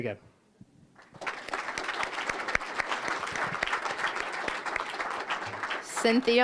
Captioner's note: applause